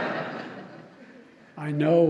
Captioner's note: laughter